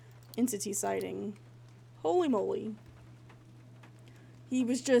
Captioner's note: none